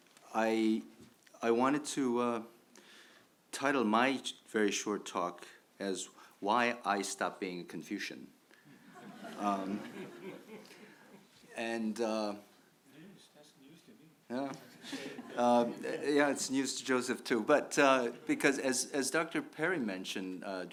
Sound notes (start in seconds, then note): 8.8 audience laughs; 14.4 chucking